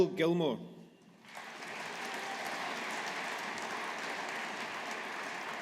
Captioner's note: audience applauding